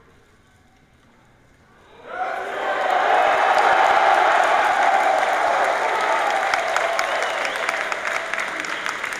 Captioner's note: applause and crowd noise